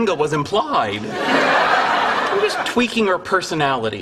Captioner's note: audience laughter